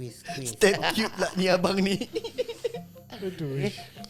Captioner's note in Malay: ketawa